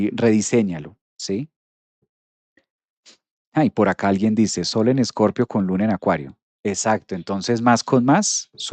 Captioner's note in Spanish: resoplido